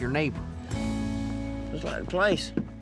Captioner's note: knocking